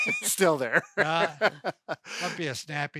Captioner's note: laughs